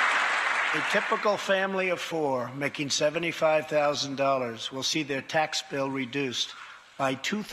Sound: applause

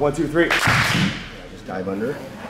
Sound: clap

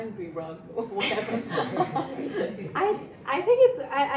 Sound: laughing

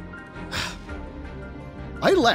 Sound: sigh

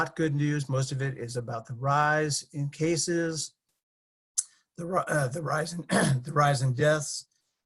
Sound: cough

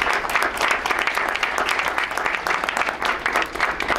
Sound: crowd applauds

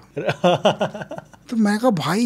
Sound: laughs

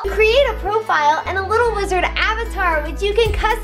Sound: none

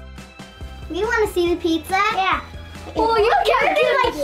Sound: laughs

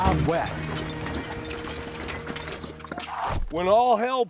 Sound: chains rattling

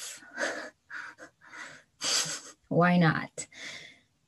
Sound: laughs

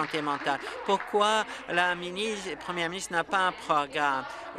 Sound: applause

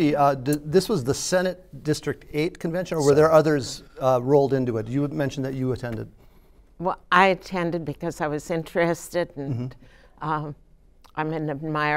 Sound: laughter

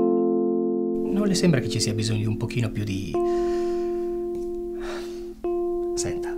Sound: inhales

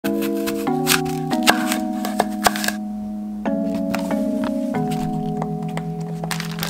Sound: chilled music; apple slicing

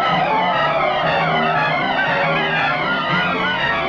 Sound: men shouting

